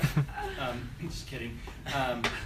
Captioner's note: laughing